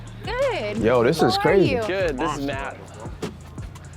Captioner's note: laughs